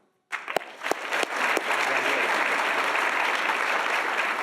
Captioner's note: audience applauding